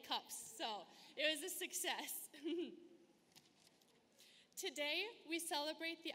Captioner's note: laughs